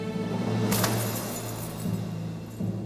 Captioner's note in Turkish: Metal sikke şıngırtı sesi